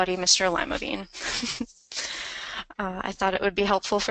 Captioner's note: laughs